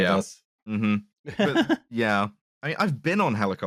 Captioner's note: laughs